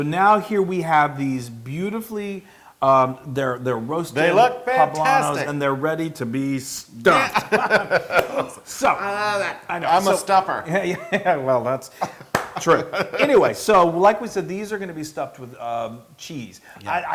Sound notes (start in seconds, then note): 7.0 laugh